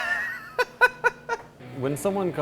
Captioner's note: laughter